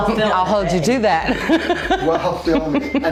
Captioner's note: laughing